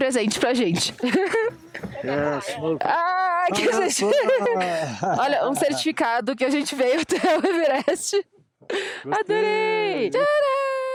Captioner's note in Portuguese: risadas